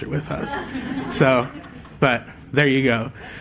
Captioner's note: laughter